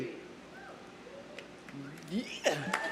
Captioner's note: audience member cheering